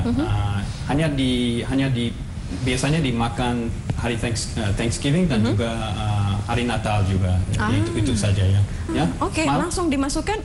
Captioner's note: non-english speech